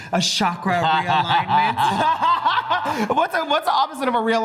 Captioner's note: laugh